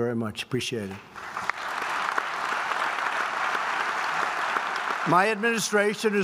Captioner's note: applause